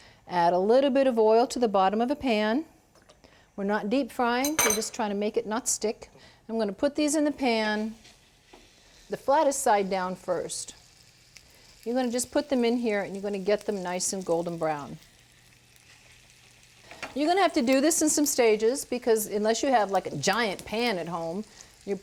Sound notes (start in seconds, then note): 15.4 sizzling